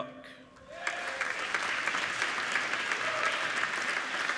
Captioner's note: applauding